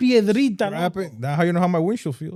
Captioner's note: speaking Foreign Language